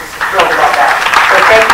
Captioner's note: applause